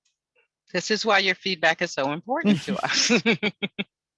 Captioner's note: laughs